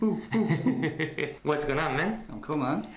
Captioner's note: laughs